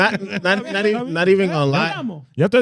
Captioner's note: speaking In Foreign Language